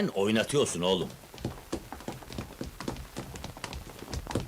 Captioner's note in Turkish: ayak sesleri̇